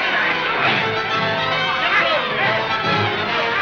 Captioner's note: mob shouting